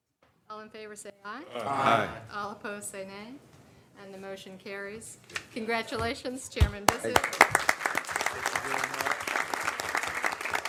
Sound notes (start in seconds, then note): 4.8 chorus of ayes; 9.6 applause